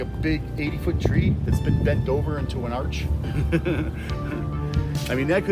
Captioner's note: laughs loudly